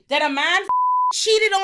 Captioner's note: beep